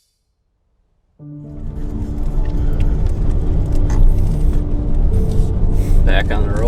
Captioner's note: ambient music; engine humming